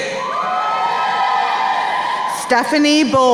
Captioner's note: crowd cheering